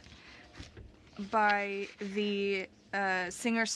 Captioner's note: speaking french